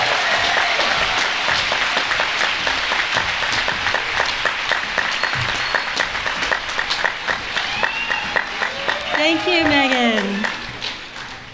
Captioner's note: applause